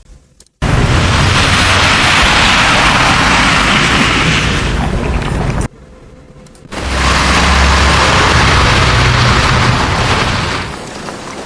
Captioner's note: sound of rain